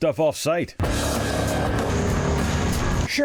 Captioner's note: intense music; machines whirring